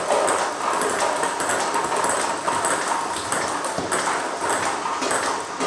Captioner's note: ball ping pong hitting continues